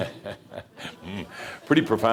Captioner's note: chuckling